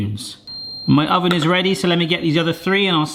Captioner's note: oven beeps